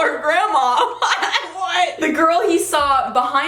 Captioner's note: laughs